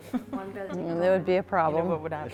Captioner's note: laughing